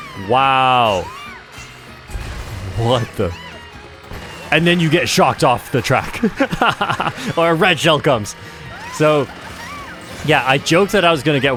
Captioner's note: laughs